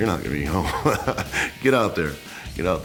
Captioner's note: laugh